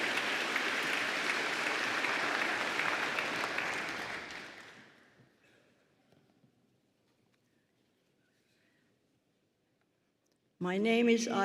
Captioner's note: applause